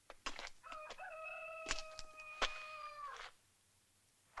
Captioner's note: cockerel crows